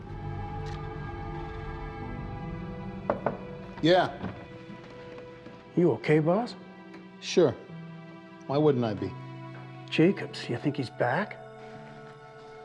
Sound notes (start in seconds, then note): 0.1 dramatic music; 3.0 door knocking